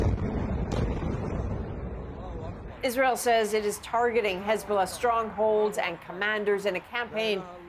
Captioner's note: bombing